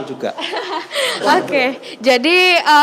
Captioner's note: laughing